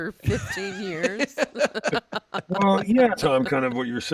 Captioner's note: laughing